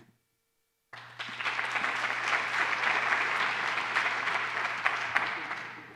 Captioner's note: applause